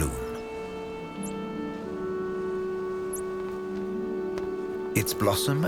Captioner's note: birds chirping